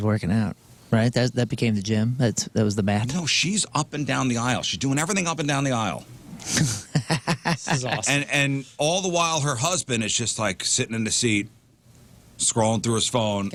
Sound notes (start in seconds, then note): 6.6 laughter